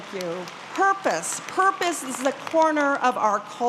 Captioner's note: applause